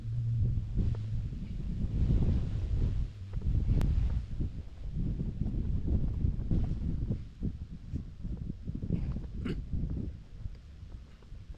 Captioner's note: wind blowing